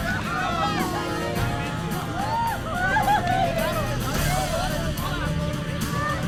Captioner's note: group speaking in foreign language